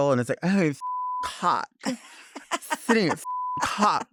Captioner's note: beep